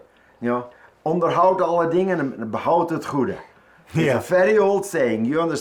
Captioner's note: speaks foreign language